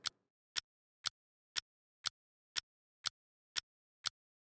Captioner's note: clock ticking